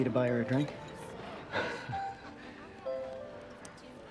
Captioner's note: laughs